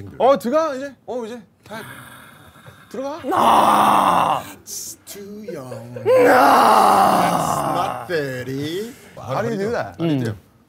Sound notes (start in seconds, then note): 1.7 sigh